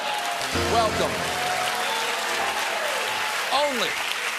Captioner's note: cheers and applause; piano riff